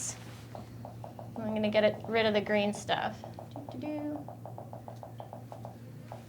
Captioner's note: humming